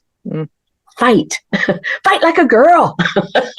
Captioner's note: laughs